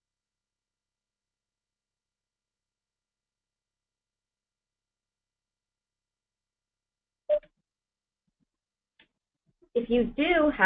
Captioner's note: pause